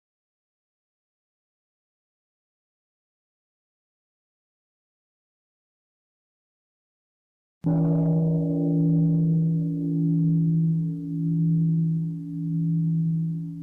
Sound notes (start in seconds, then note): 7.5 bell